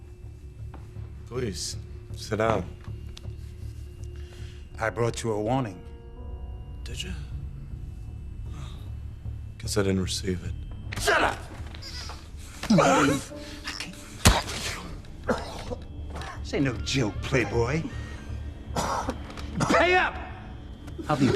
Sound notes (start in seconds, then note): 12.5 choking; 15.1 coughing